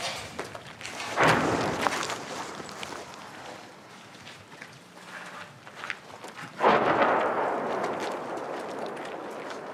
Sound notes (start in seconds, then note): 1.0 metal clanging